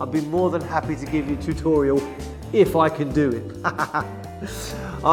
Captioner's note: haha